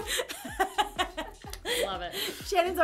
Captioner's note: laughter